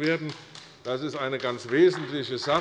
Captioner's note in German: Beifall bei Abgeordneten der CDU